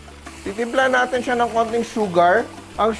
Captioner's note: sizzle